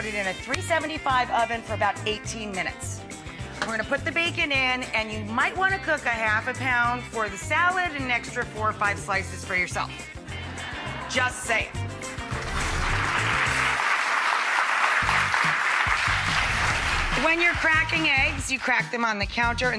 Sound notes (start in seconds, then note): 10.4 crowd laughs; 12.2 crowd applauds